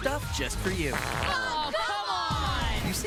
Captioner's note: fart